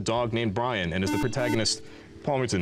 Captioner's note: beeping